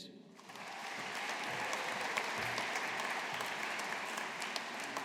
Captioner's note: audience applauding